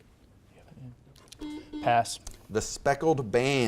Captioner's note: buzzer beeps